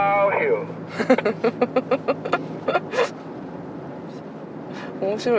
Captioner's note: laughs